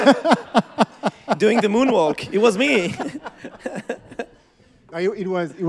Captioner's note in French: Rires